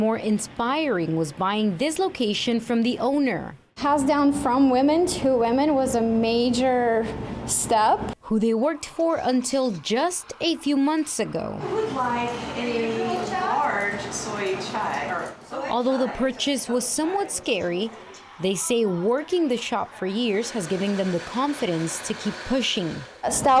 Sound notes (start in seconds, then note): 16.3 chatter